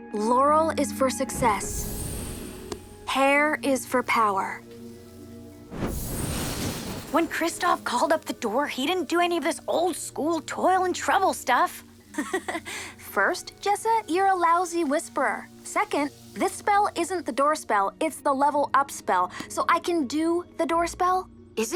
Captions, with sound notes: Laurel is for success. Hair is for power. [magical buzzing] When Kristov called up the Door, he didn’t do any of this old -school toil-and-trouble stuff. [Mischa chuckles] First, Jessa, you’re a lousy whisperer. Second, this spell isn’t the Door spell, it’s the Level-Up spell so I can do the Door spell.